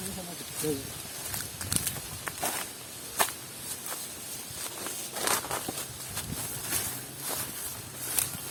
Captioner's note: footsteps tread scrub